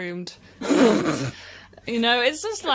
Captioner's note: elephant laugh